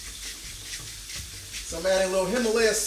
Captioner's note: food sizzling